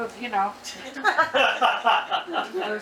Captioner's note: audience laughing